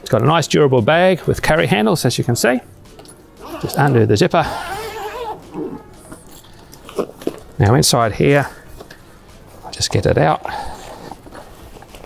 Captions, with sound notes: It's got a nice durable bag with carry handles, as you can see. Just undo the zipper. (zip zipping) Now, inside here, I'll just get it out,